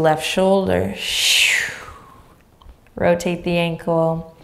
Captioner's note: exhaling deeply